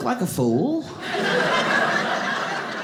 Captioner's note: audience laughing